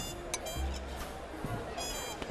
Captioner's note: all chattering